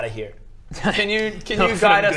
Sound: scoffs

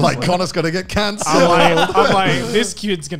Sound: laughing

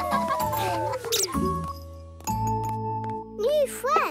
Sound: laughing; squeaking

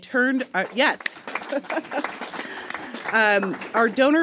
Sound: audience applauding

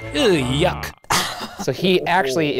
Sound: laughing

